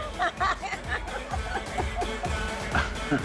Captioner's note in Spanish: Risas